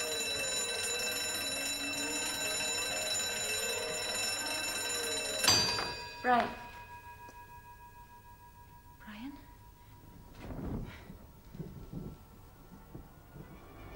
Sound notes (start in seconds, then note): 5.2 bell dinging